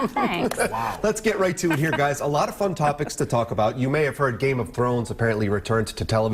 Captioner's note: laughter